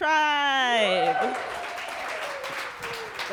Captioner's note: audience cheers and applauds